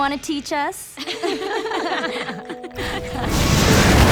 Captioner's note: laughing